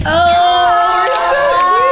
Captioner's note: all cheer